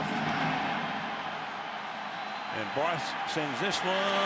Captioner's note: cheering